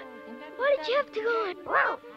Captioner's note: Arrow barking